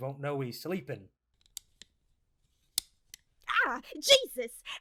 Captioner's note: sunglasses clinking